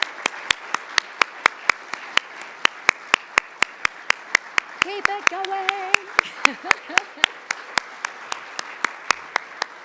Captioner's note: applause